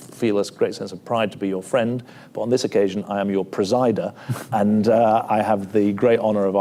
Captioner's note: laughs